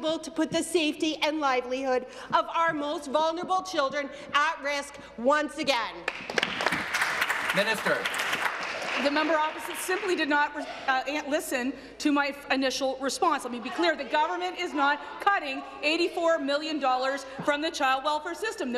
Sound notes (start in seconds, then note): 9.1 applause